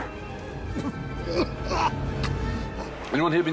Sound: gasping

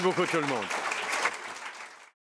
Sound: applause

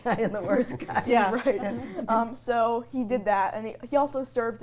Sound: everyone laughs

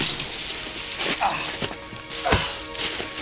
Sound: grunts

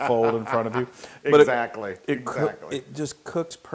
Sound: laugh

